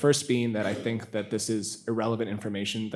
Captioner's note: attendee coughing